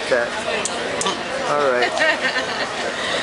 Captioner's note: laughter